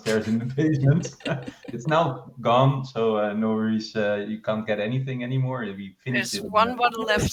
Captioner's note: laughter